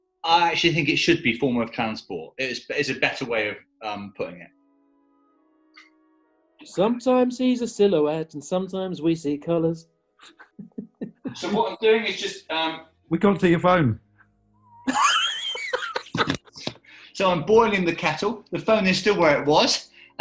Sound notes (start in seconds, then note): 10.2 chuckling; 14.8 laughing